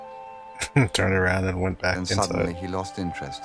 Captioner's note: chuckling